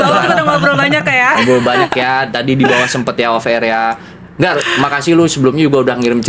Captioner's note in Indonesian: tertawa